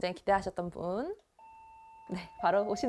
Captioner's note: ding Dong